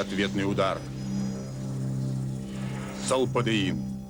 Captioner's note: hum